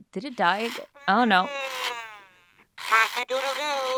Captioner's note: Coco babbling